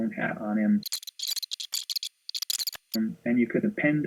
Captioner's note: squealing